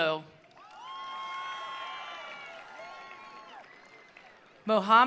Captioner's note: attendees applauding; attendees cheering